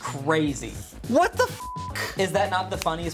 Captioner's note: beep